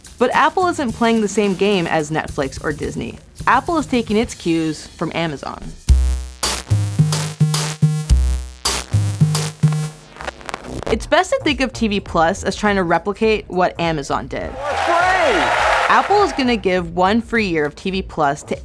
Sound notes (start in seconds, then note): 5.9 upbeat music; 14.4 audience applauding